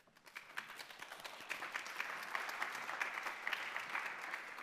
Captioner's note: audience applauding